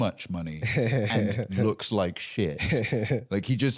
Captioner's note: laughing